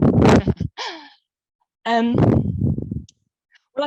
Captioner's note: laughs